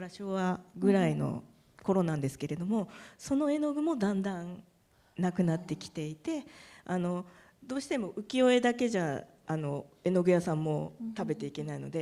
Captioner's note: speaking japanese